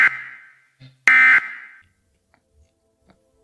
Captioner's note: alarm beeping